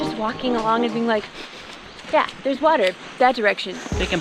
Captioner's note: sniff sniff